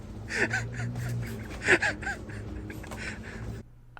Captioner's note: partner laughing